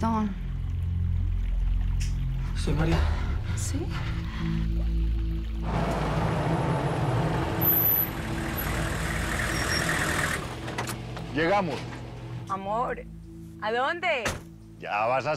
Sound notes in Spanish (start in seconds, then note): 5.6 Sonido del motor